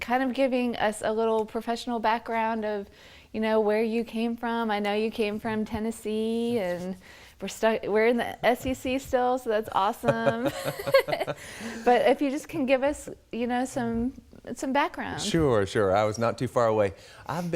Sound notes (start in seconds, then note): 10.0 both laugh